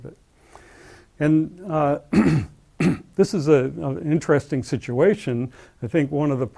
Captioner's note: cough